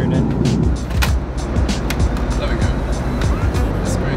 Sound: table clanking

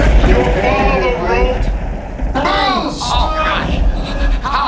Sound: voiceover; screaming

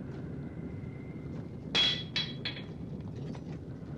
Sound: banging

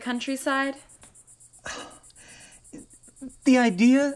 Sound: exhales disappointedly

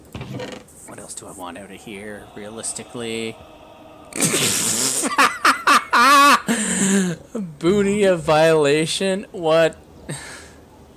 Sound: gasps

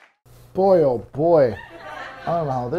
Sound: laughter

